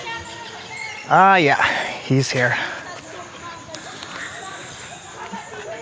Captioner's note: speaking in foreign language